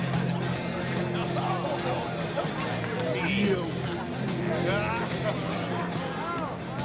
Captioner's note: crowd chattering; upbeat music